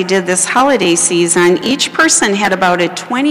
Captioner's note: none